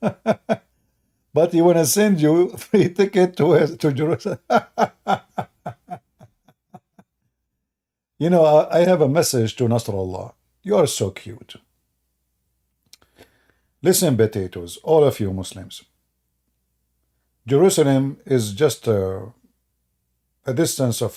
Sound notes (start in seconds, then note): 4.0 Ketawa